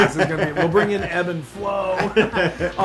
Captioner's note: laugh